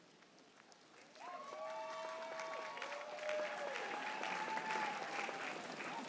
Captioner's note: audience cheering and applauding